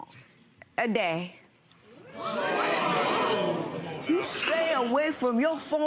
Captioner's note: audience oohing